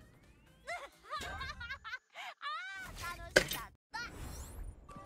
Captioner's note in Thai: เสียงหัวเราะ